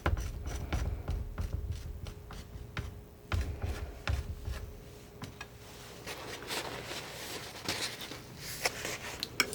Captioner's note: tapping